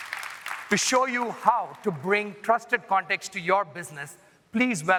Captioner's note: applause